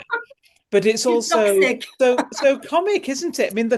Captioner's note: laughter